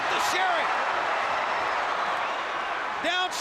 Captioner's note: crowd cheers